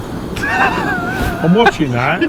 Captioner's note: laughs